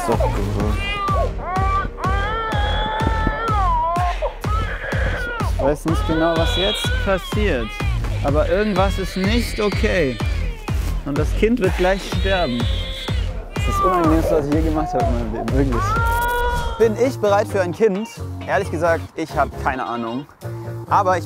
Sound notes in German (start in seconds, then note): 1.9 Baby schreit